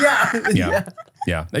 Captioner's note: everybody laughs